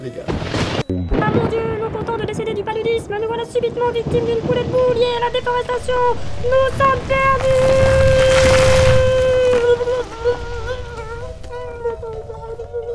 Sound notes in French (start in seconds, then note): 0.1 coup de tonnerre; 0.7 voix de fausset